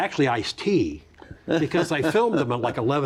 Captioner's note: chuckles